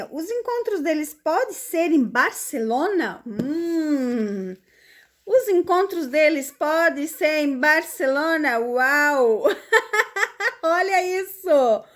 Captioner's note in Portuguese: risadas